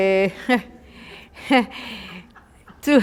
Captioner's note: laughter